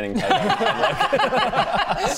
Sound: laughs

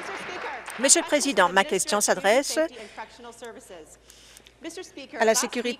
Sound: applause

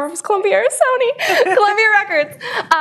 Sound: laughter

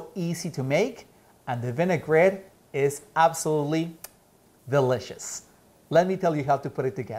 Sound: smacks lips

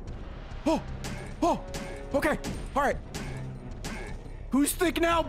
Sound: gasps

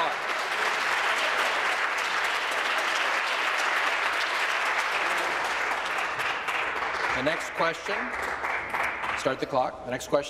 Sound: applause

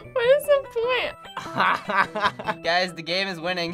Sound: laughs

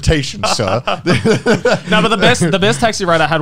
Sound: laughing

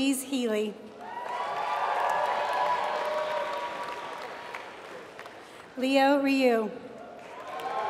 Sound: applause; applause

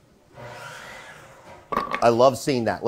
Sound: background buzzing sound

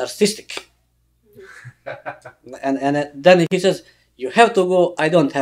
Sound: laughs

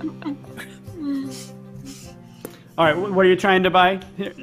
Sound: laughing

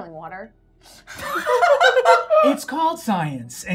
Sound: gamers laughing

